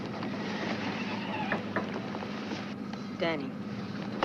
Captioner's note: tires screeching